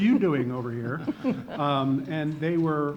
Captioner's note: laughing